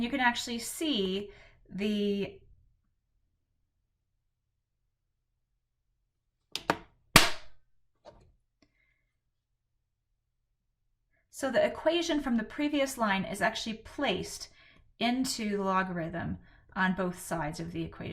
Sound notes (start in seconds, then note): 3.0 clap to indicate cut